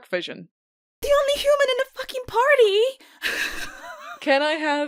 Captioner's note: laughs